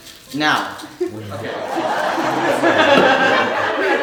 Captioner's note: audience laughing